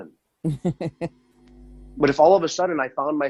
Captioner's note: laughs